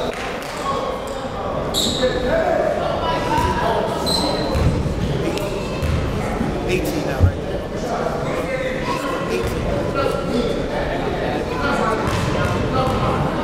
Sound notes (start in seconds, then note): none